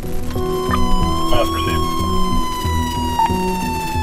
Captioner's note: sirens blaring